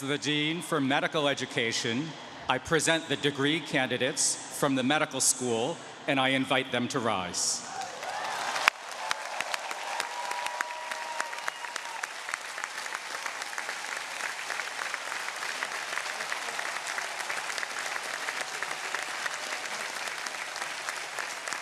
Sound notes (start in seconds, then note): 8.3 audience cheering